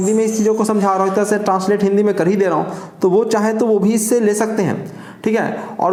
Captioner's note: high frequency current